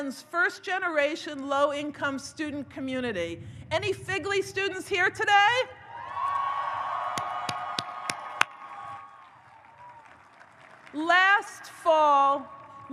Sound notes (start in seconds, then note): 5.8 audience cheers; 5.9 Amy applauds